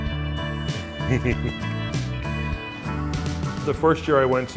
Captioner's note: laughs